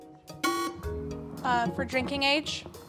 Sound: alarm buzzes

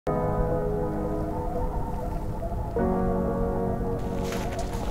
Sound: wind howling; footsteps crunching in snow

